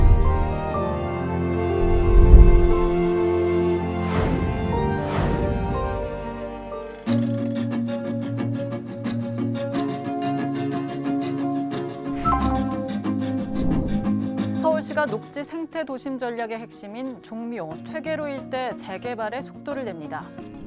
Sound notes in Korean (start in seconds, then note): 6.8 다이얼 소리; 10.5 디지털 효과음; 12.9 희망찬 음악